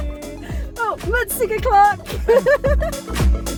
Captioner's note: laughing